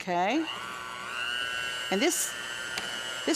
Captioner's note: mixer buzzing